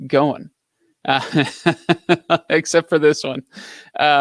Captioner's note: laughs